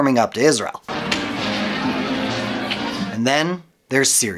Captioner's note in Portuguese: pessoas conversando